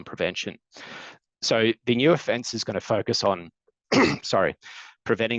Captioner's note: coughs